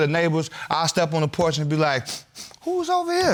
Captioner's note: sniffs